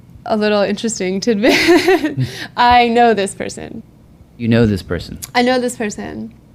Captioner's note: laughs